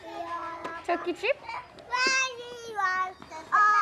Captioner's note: kids chattering